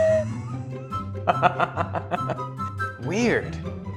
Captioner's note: laughs